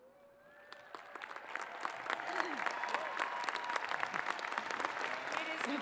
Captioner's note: cheers and applause